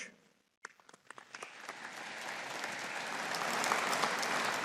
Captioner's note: audience applauding